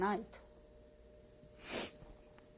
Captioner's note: pauses for 3 seconds